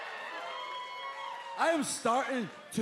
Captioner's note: cheers and applause